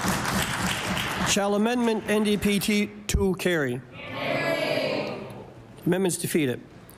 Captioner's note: applause